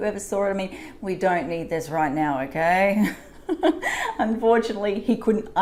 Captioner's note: laughs